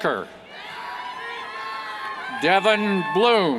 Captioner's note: cheers